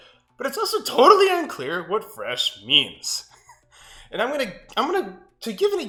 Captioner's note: laughs